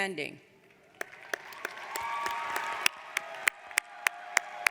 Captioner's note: audience applauds